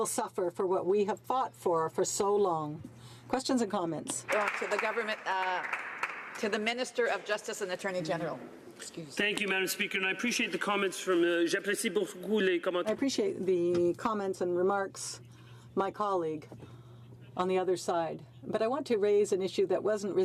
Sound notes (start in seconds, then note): 15.6 speaking French